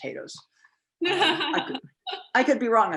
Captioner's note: laughs